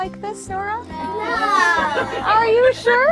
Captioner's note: all laughing